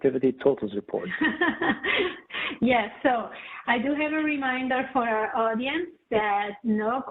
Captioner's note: chuckles